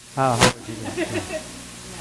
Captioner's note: laughter